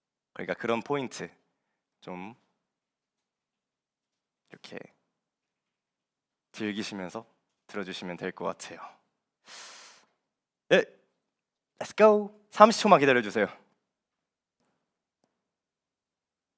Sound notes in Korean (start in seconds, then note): 10.0 콧방귀